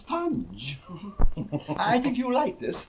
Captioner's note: both laughing